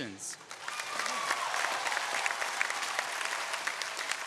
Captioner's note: audience cheering